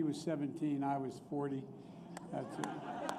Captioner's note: laughter